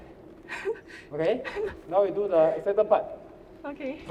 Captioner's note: laughs